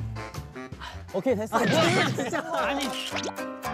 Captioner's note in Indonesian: Burst out laughing